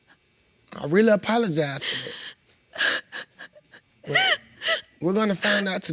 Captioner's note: sobbing